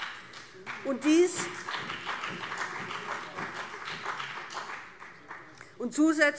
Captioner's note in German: Beifall